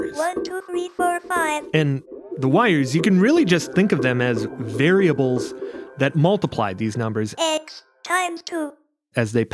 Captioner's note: ARCHIVE CLIP, NETTalk voice: X times 2